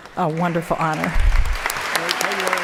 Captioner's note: applause